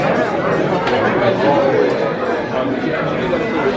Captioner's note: diners murmuring